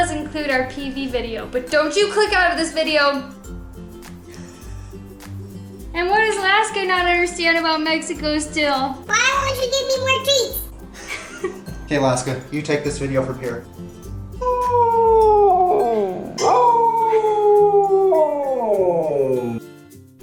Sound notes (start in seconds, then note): 14.4 siberian husky howling